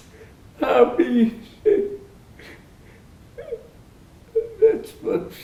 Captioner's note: crying